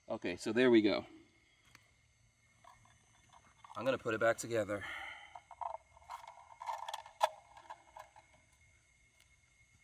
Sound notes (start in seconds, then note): 6.4 clicking